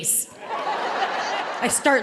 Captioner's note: audience laughing